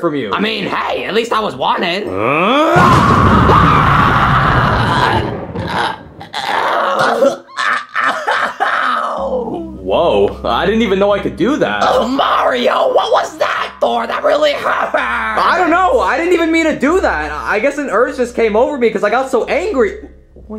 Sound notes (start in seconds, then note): 2.0 Mario grunting; 2.1 both screaming; 2.2 electricity roaring; 5.8 Iggy groaning